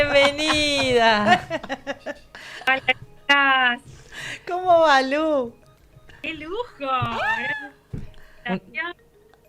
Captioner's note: laughs